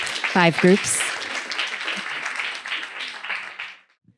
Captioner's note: applause